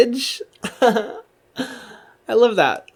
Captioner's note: laughs